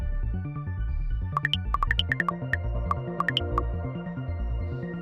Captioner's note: gentle mystery-driven music continues; text chirping; gentle mystery-driven music continues